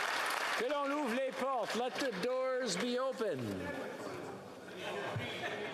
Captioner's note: applause